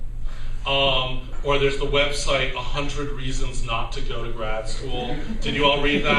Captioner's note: laughter